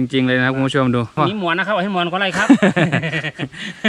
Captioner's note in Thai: หัวเราะ